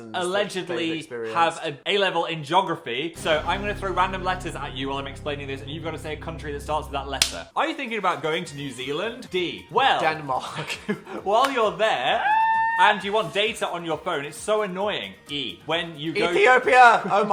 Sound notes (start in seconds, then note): 12.1 Dan screaming